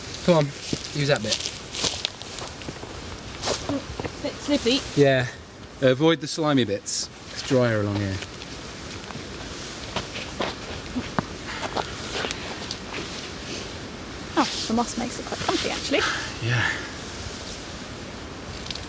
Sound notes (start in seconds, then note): 0.0 shuffling, footsteps; 10.3 shuffling